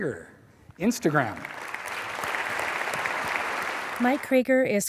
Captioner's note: applause